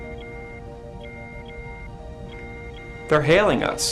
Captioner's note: alarm